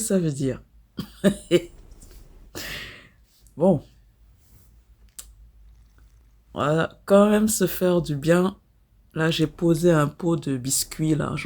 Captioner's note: laughs